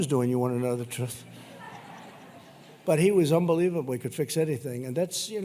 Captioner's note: laughter